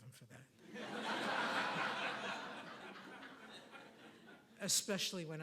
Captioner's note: audience applauding